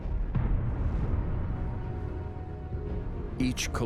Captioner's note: meteorite exploding